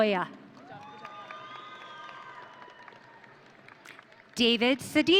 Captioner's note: audience cheering